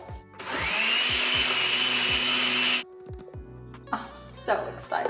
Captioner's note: blender blades whirring